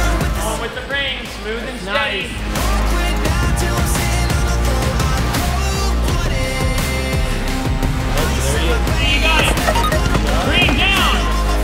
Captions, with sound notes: On to the rings, slow and steady. There he is. [CHIME] You got it. Green down!